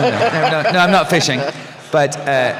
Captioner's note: laughter